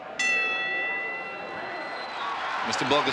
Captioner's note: audience chattering; bell rings